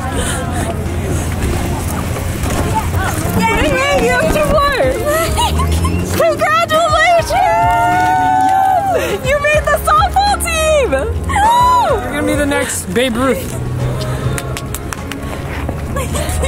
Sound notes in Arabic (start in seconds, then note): 1.5 ضحك عاطفي; 5.3 ضحك; 7.5 هتاف; 14.3 تصفيق